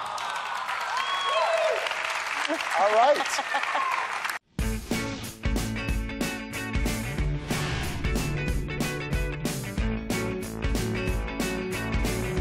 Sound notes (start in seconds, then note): 3.1 laughing